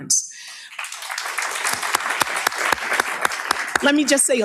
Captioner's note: audience applauds